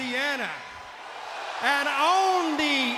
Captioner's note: crowd cheering